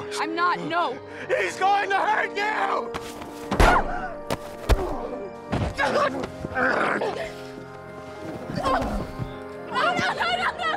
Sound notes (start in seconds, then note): 3.4 screaming; 6.5 grunting